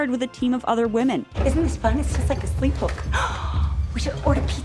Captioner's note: dramatic gasp